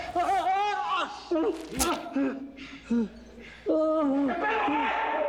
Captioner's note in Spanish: Quejidos